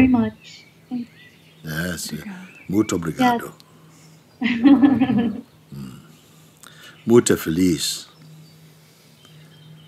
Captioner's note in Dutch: Mooji spreekt Portugees